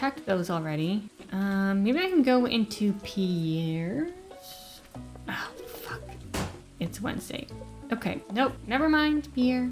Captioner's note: door slam